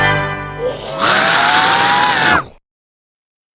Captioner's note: loud scream